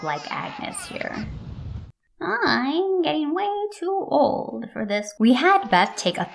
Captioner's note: old lady voice